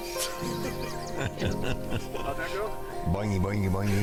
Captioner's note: laughing